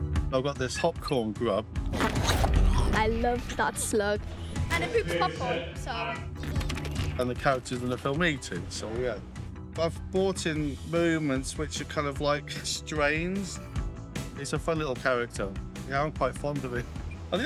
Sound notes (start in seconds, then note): 6.3 strains